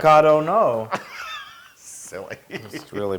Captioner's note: laugh